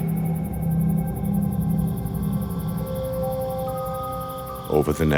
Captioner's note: crickets chirping